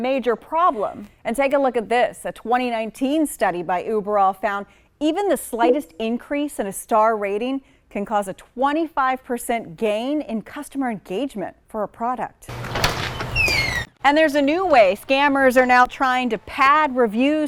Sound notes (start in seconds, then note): 12.6 door squeaking